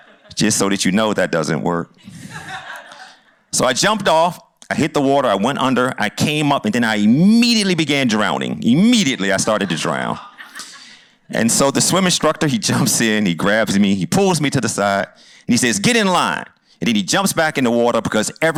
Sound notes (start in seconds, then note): 2.0 laughter